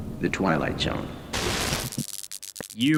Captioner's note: TV static